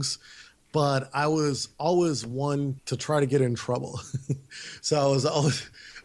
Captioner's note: laughs